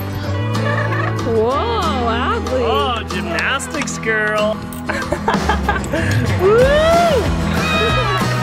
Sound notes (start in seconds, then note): 4.9 laughter